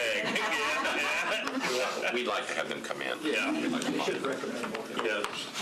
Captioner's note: laughter